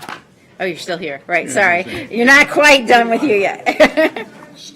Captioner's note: laughter